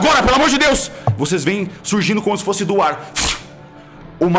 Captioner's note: flush